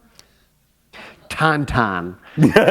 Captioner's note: laughter